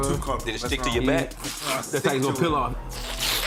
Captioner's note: imitating plastic peeling sound